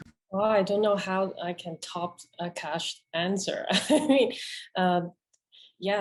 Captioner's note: chuckles